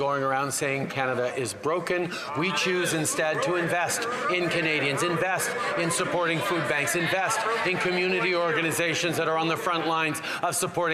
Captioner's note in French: voix de l'interprète